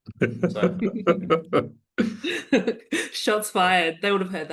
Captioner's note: laughs